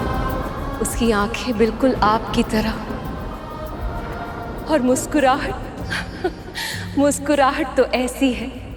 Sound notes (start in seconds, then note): 5.8 chuckles